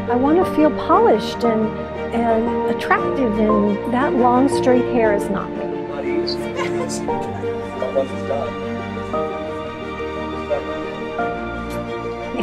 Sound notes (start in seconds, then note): 6.2 chattering; 9.6 upbeat music